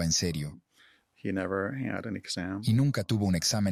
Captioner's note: Hablando idioma extranjero